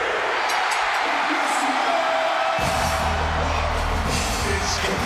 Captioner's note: crowd cheering